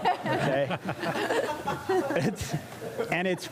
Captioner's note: laugther